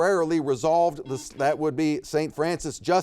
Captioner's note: buzzer beeps